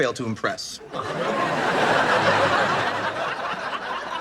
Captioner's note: audience laughs